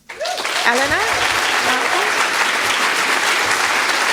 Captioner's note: applause